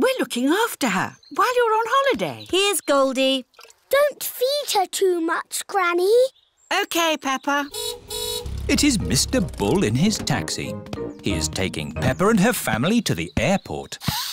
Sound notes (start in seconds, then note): 7.7 car horn honks